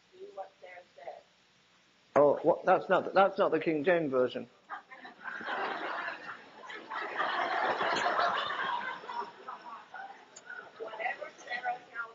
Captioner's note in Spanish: risas